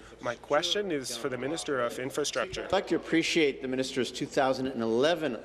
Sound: speaking in French

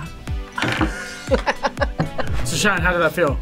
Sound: both laugh

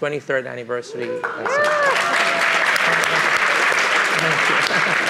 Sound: cheering and applause

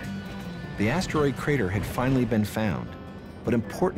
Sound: voiceover

